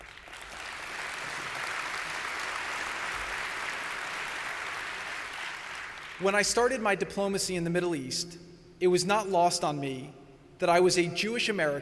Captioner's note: applause